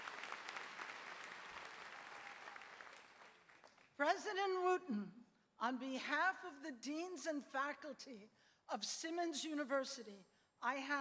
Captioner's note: applause